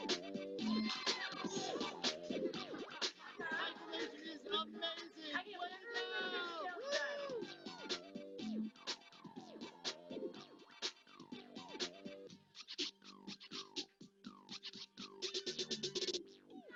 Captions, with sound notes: - Woo! (laughing) - CycleNation is amazing. Well done. Woo! (upbeat music)